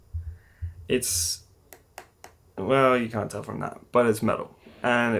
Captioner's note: knocks on it with finger